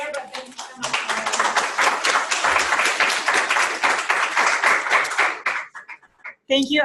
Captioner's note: applause